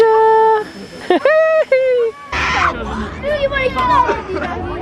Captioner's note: giggles; children chatter